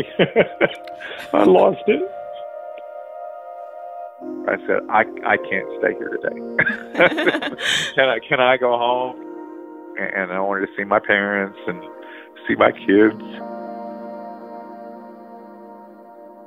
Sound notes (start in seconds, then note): 2.4 crying; 6.6 laughter